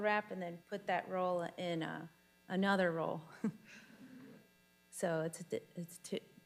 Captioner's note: chuckles